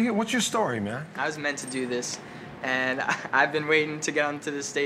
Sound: laughs

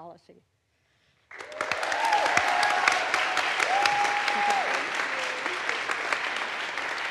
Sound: audience applauds; audience cheers

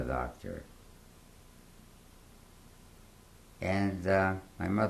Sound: pauses for 3 seconds

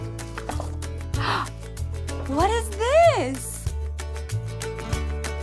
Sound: gasps

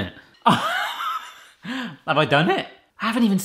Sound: laughs

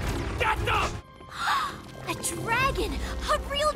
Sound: gasps

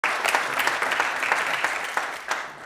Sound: audience applauds

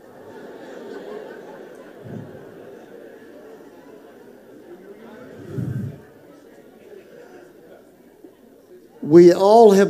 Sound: congregation murmurs

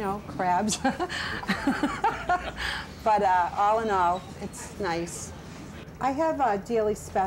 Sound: laughs

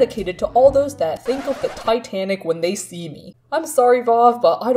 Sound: record scratch

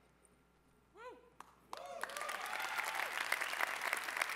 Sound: cheering

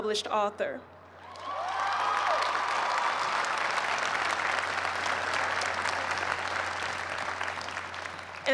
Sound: cheers and applause

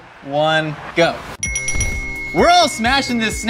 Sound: bell dinging

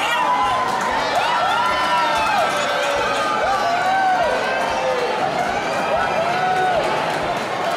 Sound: cheering

